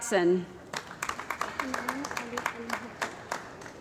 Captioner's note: applause